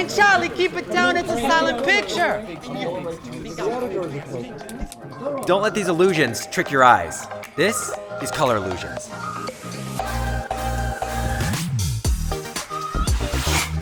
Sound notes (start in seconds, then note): 2.5 crowd mumbling; 9.2 upbeat music